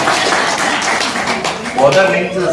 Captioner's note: claps